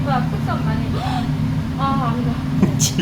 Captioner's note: gasps